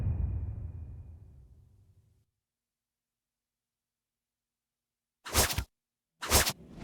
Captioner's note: dramatic sound